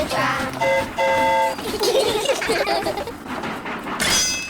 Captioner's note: train horn toots; all giggle